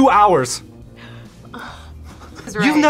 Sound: both laugh

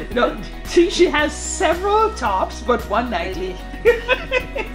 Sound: laughing

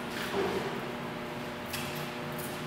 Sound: footsteps

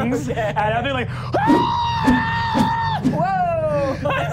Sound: screaming

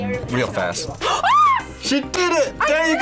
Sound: screams

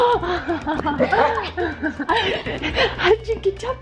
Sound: laughing

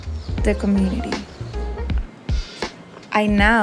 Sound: birds chirping

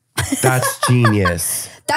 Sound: laughs

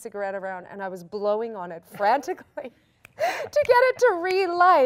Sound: laughing

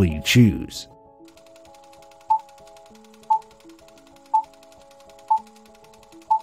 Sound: movie reel spinning and beeps

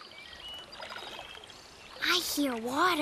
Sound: animals chatter, water swooshes, wind blows

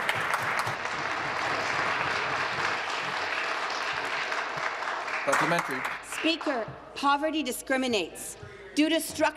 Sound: applause

